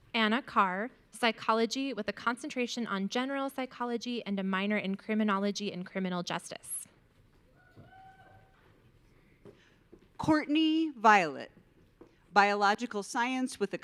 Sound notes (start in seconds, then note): 7.7 audience cheering